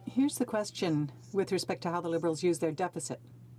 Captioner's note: speaking French